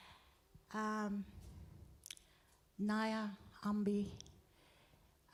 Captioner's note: speaking native language